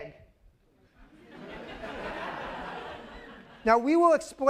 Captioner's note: laughter